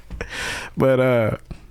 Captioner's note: laughing